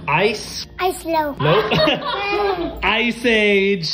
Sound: laughing

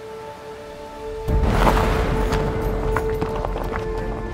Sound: volcano erupts

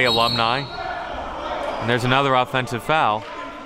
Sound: whistle blows

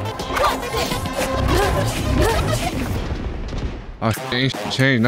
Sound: blades swooshing

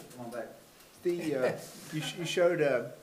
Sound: attendee chuckling

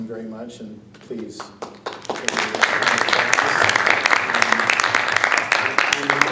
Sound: applause

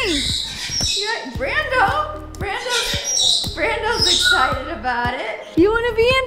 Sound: Jersey squawks

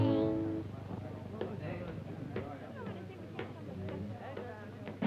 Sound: people chattering

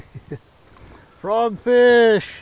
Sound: chuckling; fish splashing

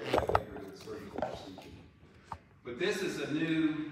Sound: faintly speaking

